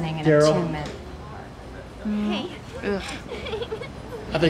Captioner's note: giggles